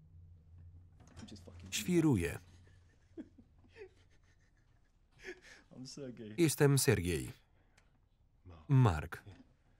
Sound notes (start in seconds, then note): 2.4 laughing; 2.4 laughs